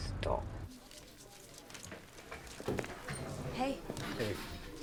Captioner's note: patrons chattering